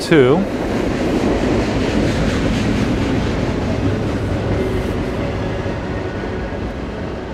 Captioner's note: sound of train continues